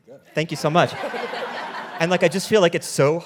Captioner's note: audience laughing